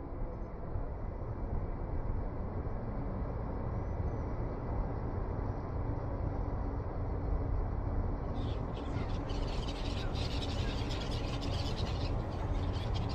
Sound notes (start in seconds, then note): 6.5 birds chirping; 8.2 wind blowing softly